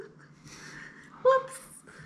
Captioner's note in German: lacht